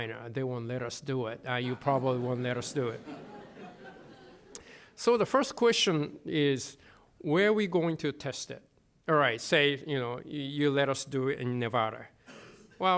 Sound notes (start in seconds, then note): 3.3 laughter